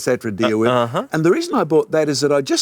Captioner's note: laughs